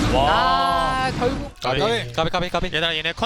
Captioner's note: BuZz